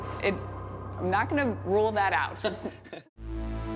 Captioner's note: both chuckle